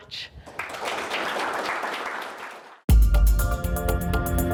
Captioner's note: audience applauds; upbeat music